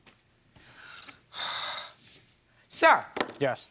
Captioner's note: Judge Judy sighing